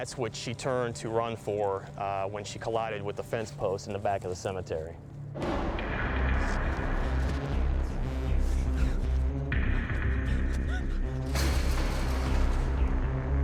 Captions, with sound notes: what she turned to run for when she collided with the fence post in the back of the cemetery. [ominous music] [panting]